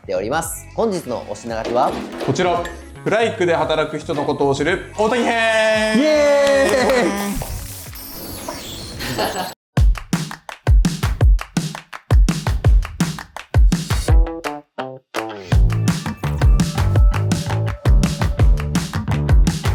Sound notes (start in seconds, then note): 9.9 applause